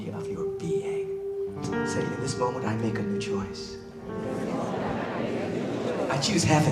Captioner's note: crowd repeat